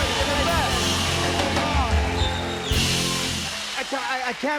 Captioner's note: cheers and applause